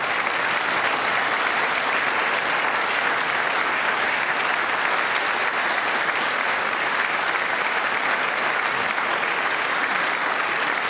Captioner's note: applause